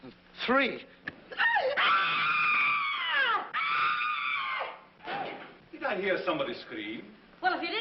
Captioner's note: whimpering; screams